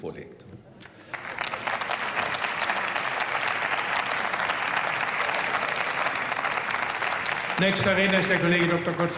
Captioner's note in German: Beifall